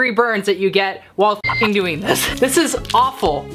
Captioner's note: beep